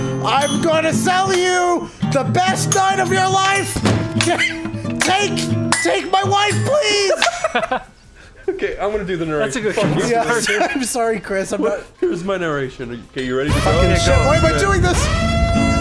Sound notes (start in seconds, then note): 3.7 thud; 7.0 heheheheheh; 13.5 alarms blaring, extreme suction